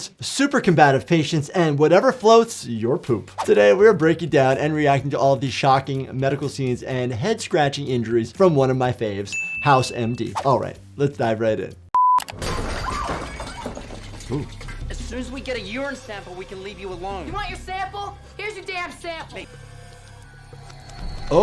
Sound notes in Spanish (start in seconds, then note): 9.3 suena la campana; 12.3 objetos rompiéndose; 19.7 música tensa